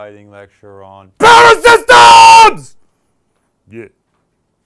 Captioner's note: shouting